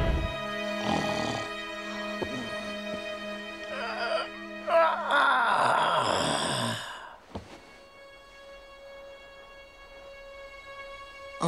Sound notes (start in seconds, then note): 0.8 snoring; 3.1 grunting